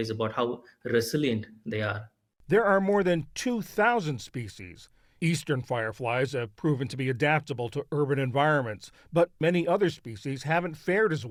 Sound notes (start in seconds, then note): 3.0 voice-over